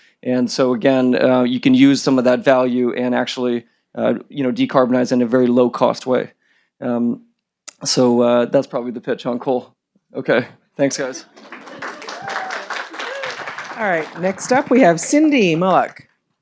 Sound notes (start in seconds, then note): 10.8 audience applauding